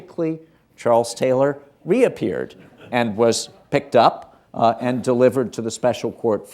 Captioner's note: laughter